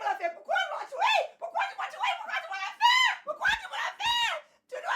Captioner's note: Cassie screaming in French